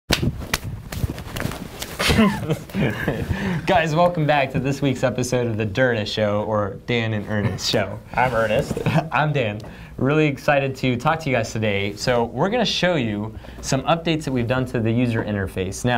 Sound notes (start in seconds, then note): 0.1 slapping; 2.0 laughing; 9.5 laughs